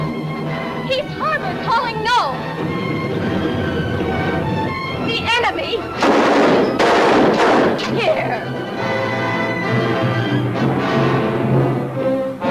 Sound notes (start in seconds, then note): 5.9 gun firing; 8.9 dramatic music; 12.3 suspenseful music